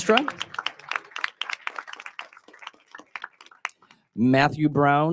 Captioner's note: audience applauding